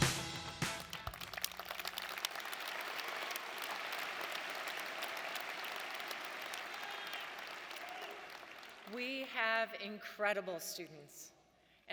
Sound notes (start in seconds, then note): 1.3 audience applauding